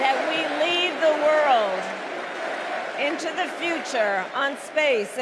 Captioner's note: cheers and applause; crowd chanting